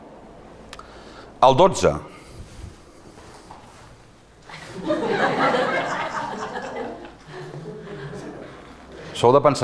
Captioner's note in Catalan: No aplaudeixen i riuen